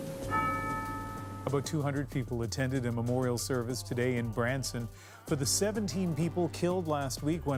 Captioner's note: bells tolling